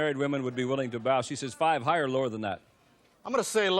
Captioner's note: none